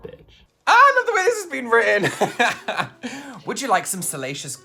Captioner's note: laughs